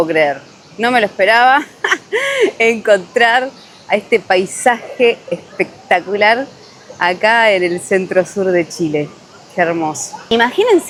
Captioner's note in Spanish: risas